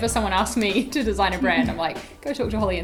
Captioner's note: laughs